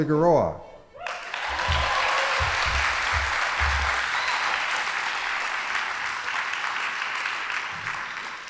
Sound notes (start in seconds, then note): 1.0 audience applauding